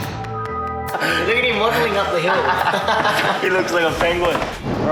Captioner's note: laughs